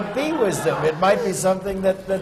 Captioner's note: laughter